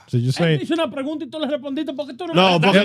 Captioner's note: speaking In Foreign Language